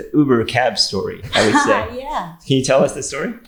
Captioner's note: laughing